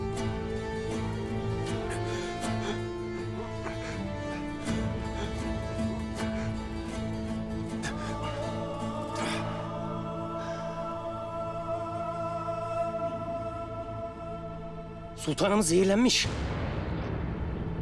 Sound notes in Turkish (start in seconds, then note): 0.0 Müzik - Gerilim; 3.6 Nefes sesi